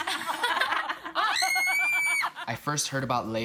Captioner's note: screaming